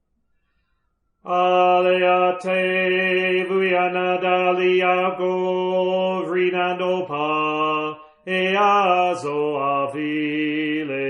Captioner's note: Hilarion chants in an ancient tongue